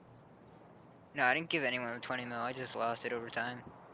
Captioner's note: crickets